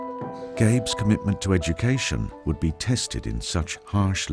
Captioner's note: voiceover